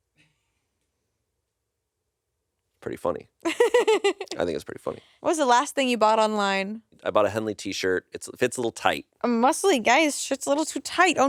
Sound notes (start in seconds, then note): 3.4 laughs